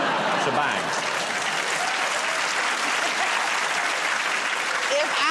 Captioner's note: cheers and applause